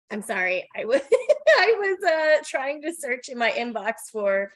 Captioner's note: laughing